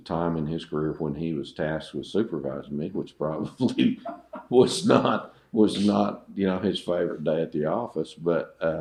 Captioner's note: laughter